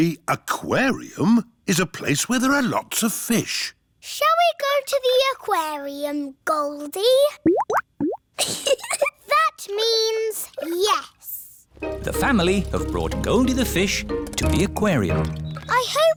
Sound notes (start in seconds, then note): 7.4 bubbling; 8.4 giggles